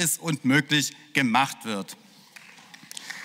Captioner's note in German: Beifall